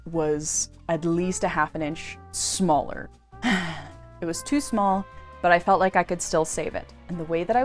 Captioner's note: sigh